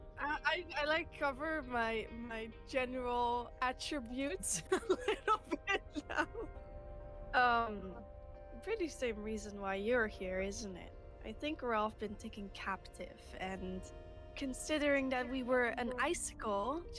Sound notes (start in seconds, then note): 4.4 laughs